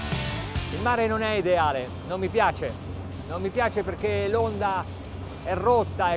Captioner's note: speaking in foreign language